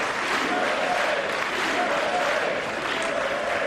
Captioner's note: applause